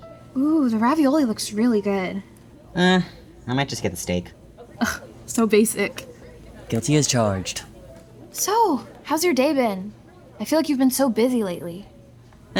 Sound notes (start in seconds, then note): 5.1 sarcastic